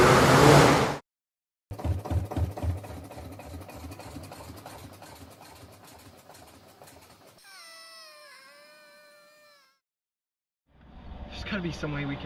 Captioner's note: car crashes through barn wall, squealing tires and revving engine; DeLorean sputters, wheezes and dies